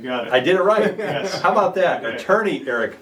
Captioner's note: laughing